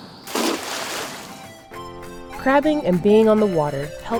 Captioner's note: water splashes